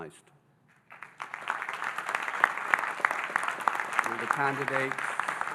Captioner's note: audience applauding